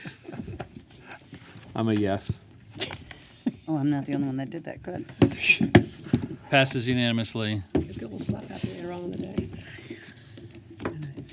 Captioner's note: laughter